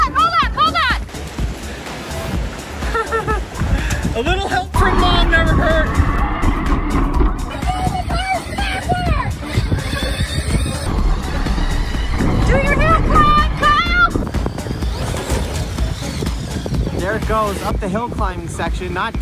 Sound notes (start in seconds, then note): 2.8 laughs